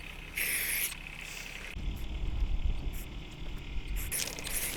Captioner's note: paint spraying sound